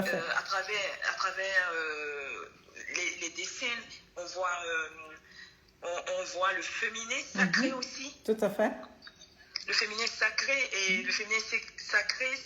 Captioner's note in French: Rire